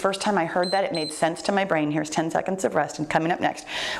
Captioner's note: timer beeps